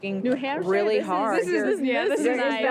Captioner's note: laughter